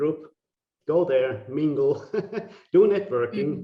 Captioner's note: laughing